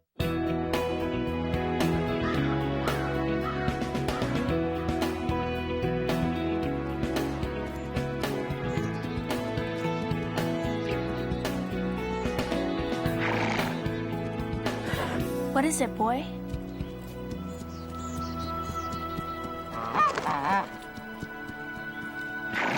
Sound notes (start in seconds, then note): 13.0 horse snorts; 19.8 goose quacks